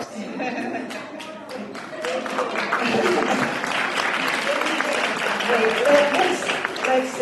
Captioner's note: applause